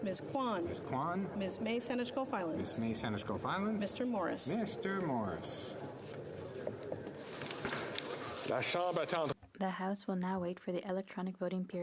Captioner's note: calling of recorded vote